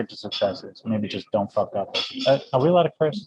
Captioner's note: beep